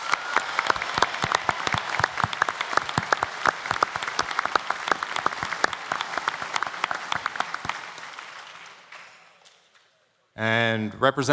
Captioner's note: applause